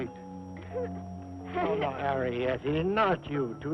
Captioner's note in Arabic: يضحك